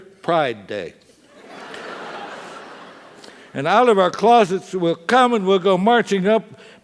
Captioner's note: laugh